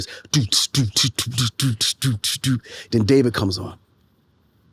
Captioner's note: beatboxes